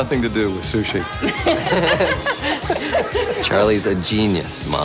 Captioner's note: laughing